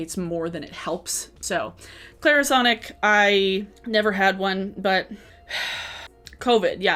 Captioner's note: puffs